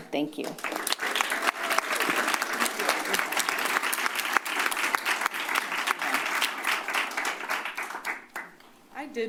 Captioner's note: applause